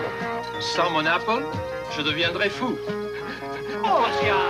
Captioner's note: French